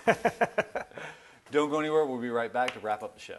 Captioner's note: laughing